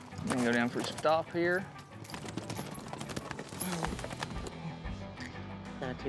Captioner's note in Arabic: ضربات حوافر